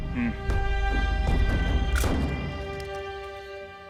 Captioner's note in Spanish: Clic de la cámara